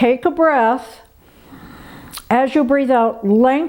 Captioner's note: inhales sharply